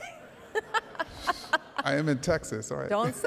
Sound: laughing

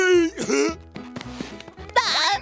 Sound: chuckles

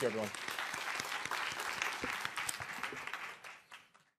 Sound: applause

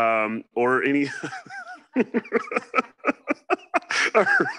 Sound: laughs

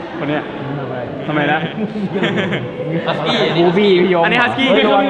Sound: laughs

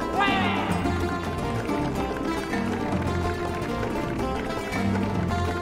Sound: audience applauding

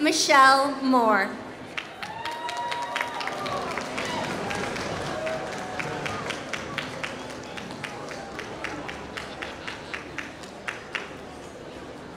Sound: applause

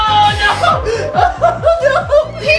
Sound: crying

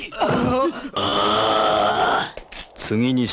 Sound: overreacting groan!

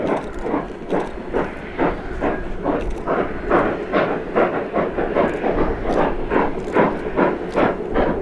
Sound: steady chugging

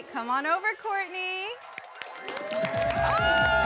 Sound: cheering

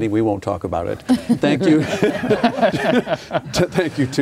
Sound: laughing

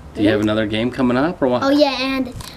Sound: none

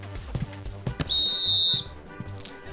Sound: blowing whistle

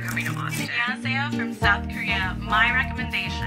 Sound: speaking foreign language

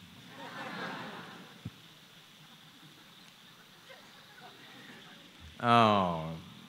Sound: few laugh

